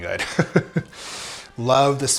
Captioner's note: chuckling